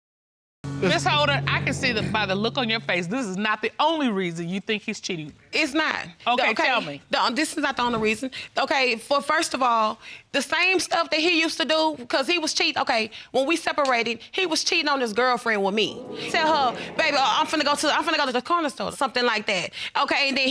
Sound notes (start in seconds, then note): 0.6 crowd laughs